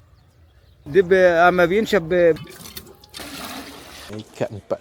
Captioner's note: speaking Arabic